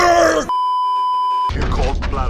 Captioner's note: beeeeeeeeeeeep